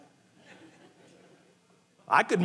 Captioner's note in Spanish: congregantes riendo